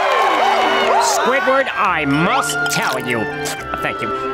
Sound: cheering

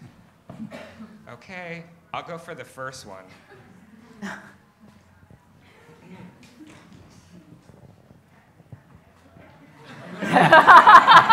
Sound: laughs

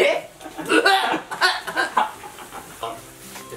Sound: weak laughter

